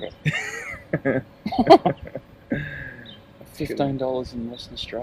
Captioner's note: laughing